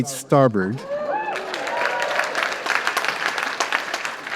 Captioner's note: applause